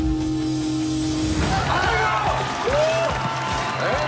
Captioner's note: yelling